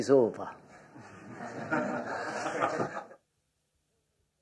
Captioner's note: laughter